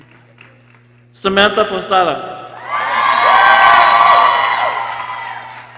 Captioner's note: people cheering